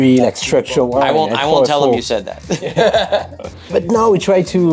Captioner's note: laughs